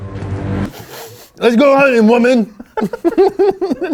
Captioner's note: sniffs